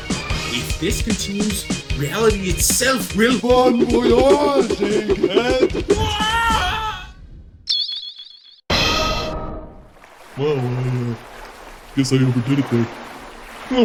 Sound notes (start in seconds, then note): 5.4 panicked scream as he's yeeted into space